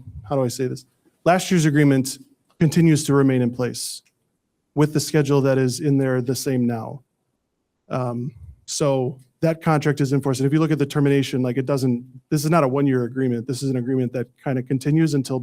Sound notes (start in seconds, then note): none